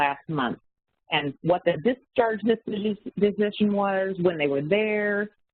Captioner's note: audio warps